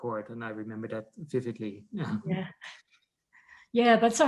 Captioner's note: laughs